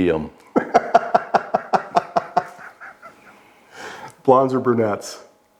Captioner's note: laughing